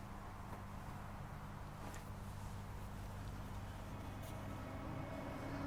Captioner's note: wind in the background